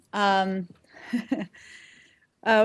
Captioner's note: laughter